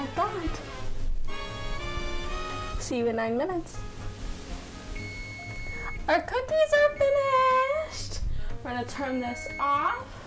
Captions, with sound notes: There we go. Start that. See you in nine minutes. (timer beeps) Our cookies are finished!